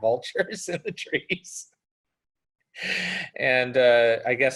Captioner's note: laughs